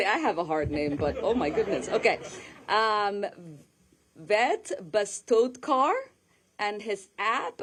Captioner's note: laughter